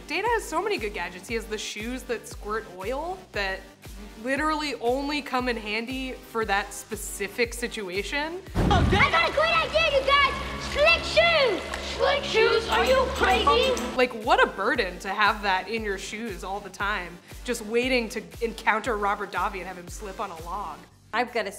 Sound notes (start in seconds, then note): 8.5 air whooshes; 11.3 water splashes